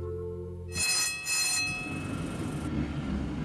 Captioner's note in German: Straßenbahn klingelt